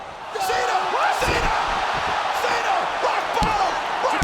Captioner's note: applause